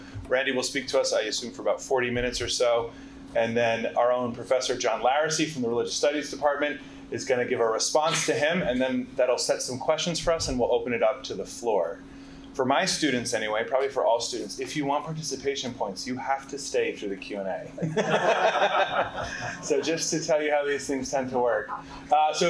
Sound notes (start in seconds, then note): 17.8 participants laughing